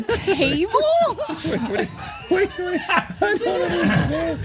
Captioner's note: laughter